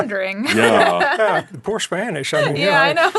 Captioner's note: laughing